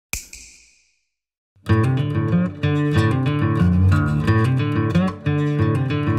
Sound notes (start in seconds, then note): 0.1 snap